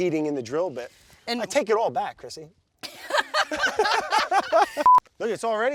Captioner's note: both laugh